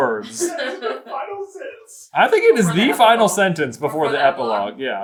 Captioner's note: laughing